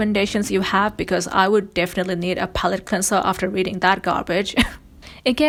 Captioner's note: laughs